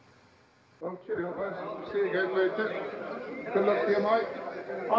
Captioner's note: crowd noise